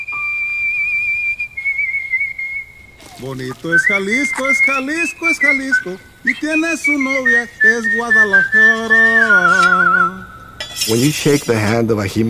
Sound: whistling

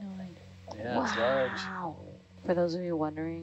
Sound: woman wowing

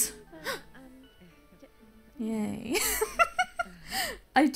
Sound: gasps; giggles

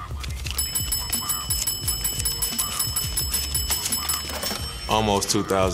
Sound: sound of cash machine

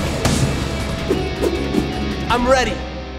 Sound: balls whoosh

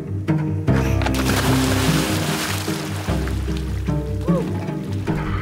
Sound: water swishing

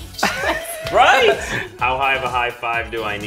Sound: laughter

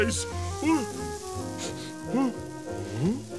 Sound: sniffing

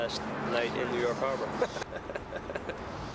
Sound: laughs

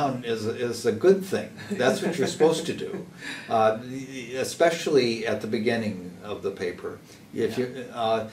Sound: laugh

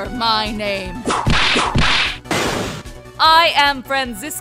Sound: whip cracks

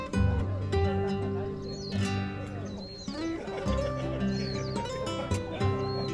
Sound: birds

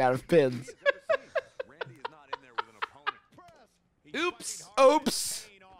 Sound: laughing

